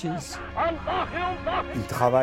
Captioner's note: German spoken audio